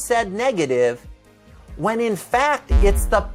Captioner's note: electronic sound effect